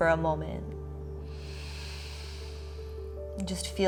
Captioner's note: inhaling